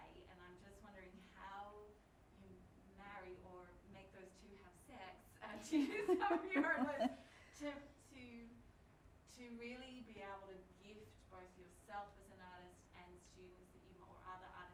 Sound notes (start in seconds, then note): 5.9 laughing